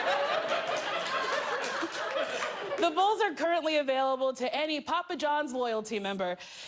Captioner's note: laughter